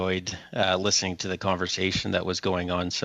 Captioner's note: speaking French